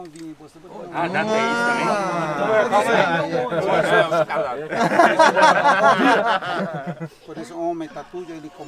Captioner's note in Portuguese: risos